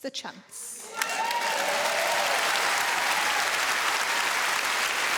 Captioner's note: audience applauding